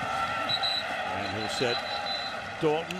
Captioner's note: whistle blows